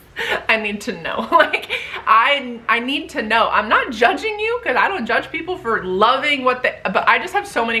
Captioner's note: laughs